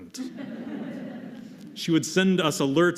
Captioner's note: laughter